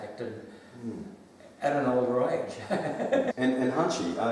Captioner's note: both laugh